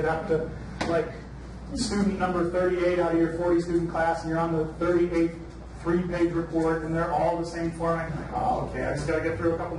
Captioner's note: none